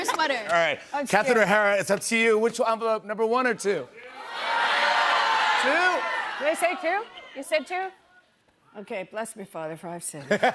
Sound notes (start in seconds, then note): 4.0 audience shouting; 10.2 laughter